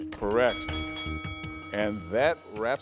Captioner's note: bell ringing